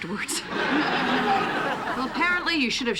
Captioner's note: laughter